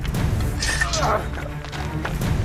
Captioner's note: swords clash; footsteps crunch